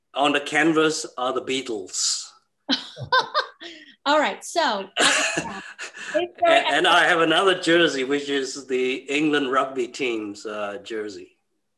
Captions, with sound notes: On the canvas are The Beatles. - (laughs) All right, so- - And I have another jersey, which is the England rugby team's jersey.